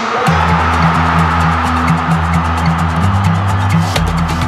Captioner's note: crowd roaring